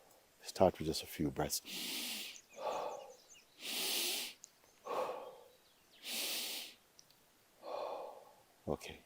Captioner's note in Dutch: Mooji ademt in en uit